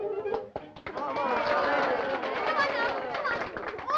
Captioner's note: applause and cheering